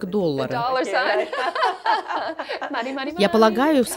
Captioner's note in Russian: Смеются